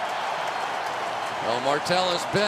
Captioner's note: pa announcement; cheering